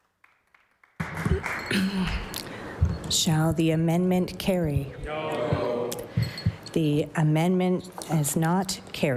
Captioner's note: applause